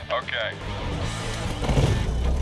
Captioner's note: propeller whirring